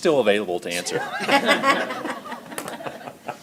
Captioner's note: laughter